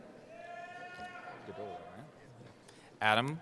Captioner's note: cheering